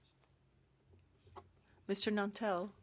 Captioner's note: speaking French